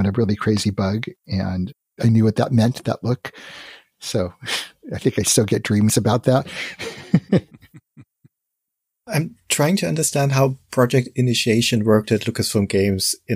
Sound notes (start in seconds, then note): 6.5 laughs